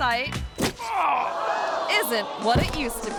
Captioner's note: kick thuds; man groans; crowd gasps